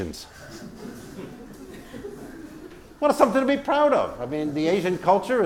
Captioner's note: laugh